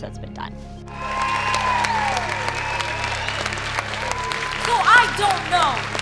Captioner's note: crowd cheering